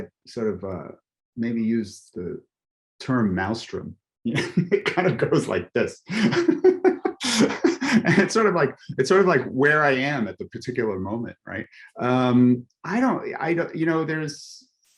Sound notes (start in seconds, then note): 7.2 chuckles